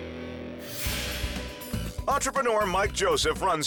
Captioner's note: transition whooshes